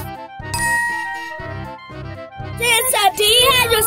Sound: bell dings

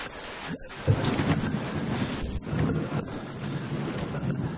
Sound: rain pouring; thunder rumbling; Jason groaning

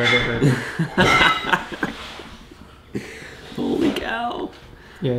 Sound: laughter

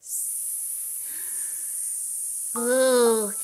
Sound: hissing

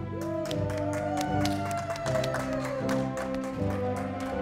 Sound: audience applauding

